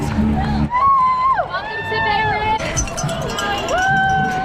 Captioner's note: crowd noise